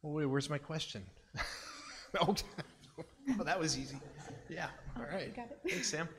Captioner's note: laughs